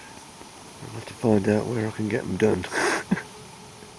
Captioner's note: laughter